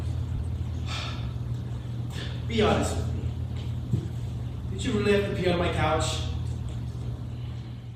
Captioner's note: sighs